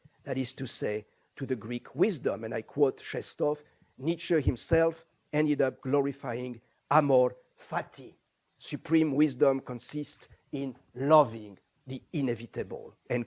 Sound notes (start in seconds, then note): 7.1 non-english